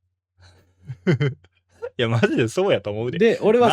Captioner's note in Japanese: 笑い